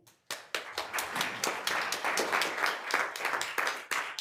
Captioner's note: attendees applauding